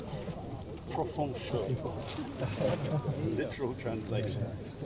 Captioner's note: speaking in a foreign language